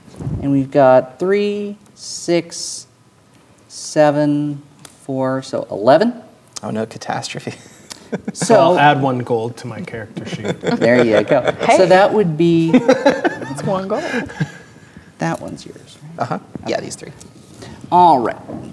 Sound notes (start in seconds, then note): 7.7 chuckles; 12.6 players laughing; 12.6 laughing